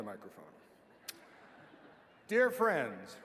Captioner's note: laughing